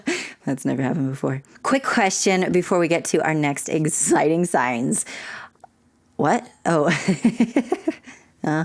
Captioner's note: laughter; laughter